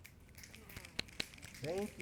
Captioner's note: applause